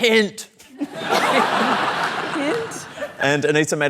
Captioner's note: laughter